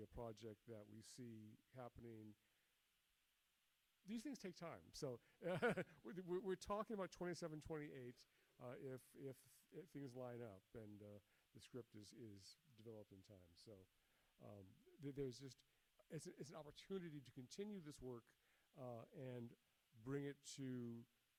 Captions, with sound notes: a project that we see happening. These things take time, so. (chuckles) We're talking about '27, '28, if things line up and the script is developed in time, so. There's just, it's an opportunity to continue this work and bring it to,